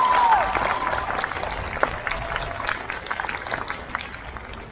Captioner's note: crowd cheers